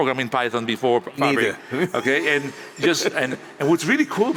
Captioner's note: laughs